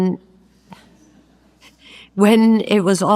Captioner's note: audience laughs